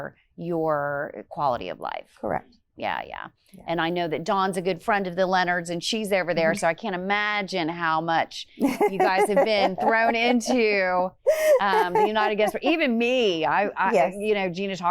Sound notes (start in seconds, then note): 11.2 laughs